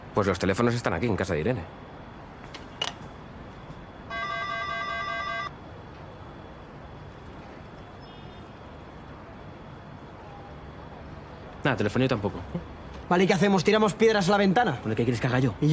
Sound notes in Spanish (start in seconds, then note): 4.1 Telefonillo